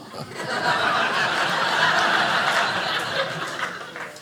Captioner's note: audience laughing